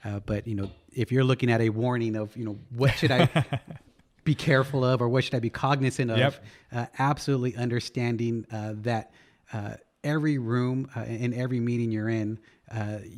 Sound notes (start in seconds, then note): 2.8 laughs